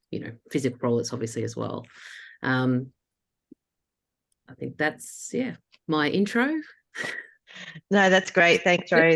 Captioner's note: laughs